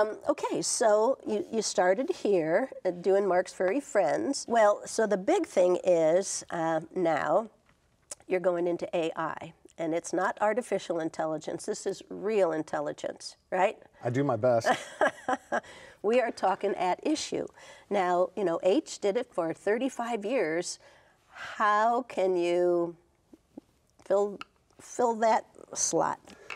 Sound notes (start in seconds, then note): 14.6 chuckling